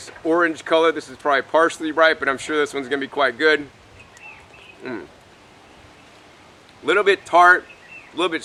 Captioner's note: eats